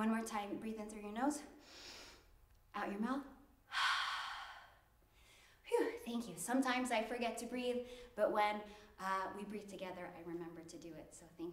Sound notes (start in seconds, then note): 3.7 inhales; 3.7 exhales